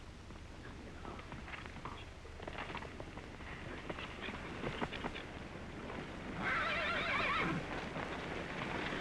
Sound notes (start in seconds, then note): 1.0 hooves trotting; 6.4 horse neighing